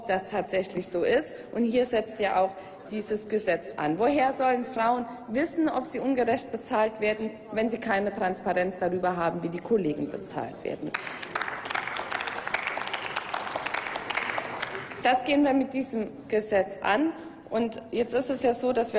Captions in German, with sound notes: ob das tatsächlich so ist. Hier setzt dieses Gesetz an. Woher sollen Frauen wissen, ob sie ungerecht bezahlt werden, wenn es keine Transparenz hinsichtlich der Bezahlung der Kollegen gibt? (Applaus) Dieses Problem gehen wir mit diesem Gesetz an. Jetzt ist es so,